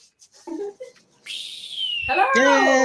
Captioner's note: air whistling